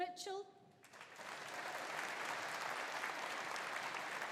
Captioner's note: audience applauding